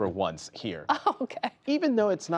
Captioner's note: laughter